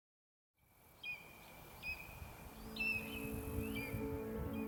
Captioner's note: birds chirping